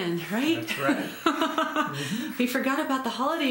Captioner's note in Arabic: يضحك